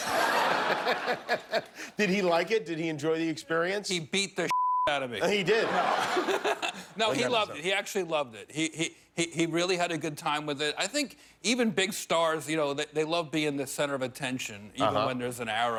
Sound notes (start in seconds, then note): 8.1 laughter